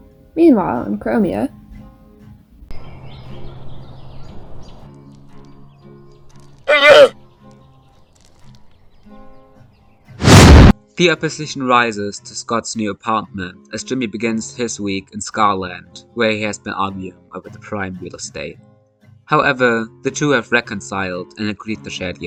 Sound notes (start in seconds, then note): 2.8 birds chirp; 4.2 llama noise; 4.2 loud wooshing noise